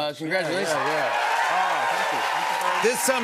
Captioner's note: cheers and applause